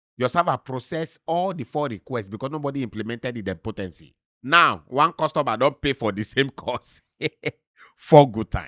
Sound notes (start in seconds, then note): 6.7 chuckles